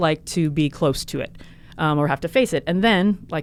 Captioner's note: none